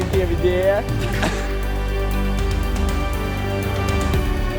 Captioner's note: laughter